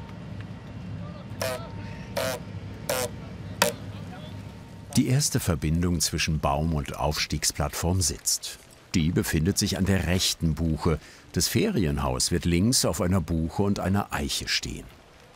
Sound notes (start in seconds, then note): 1.4 squeaking